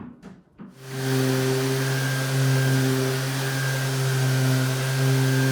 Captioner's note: sander whirring